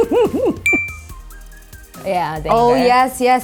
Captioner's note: laughs